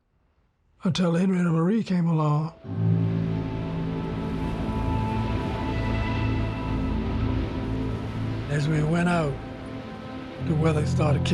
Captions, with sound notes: until the Henrietta Marie came along. [dramatic music] [water churning] As we went out, the weather started kicking up.